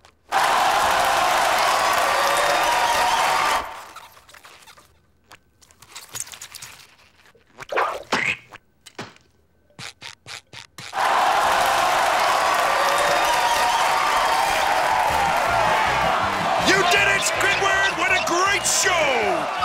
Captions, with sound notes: [cheering] [cheering] You did it Squidward! What a great show.